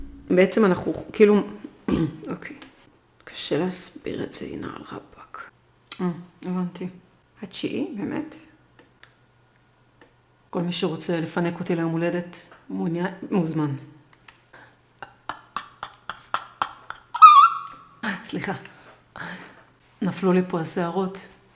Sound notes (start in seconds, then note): 15.1 dumb laugh